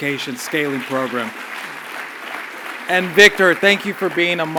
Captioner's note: applause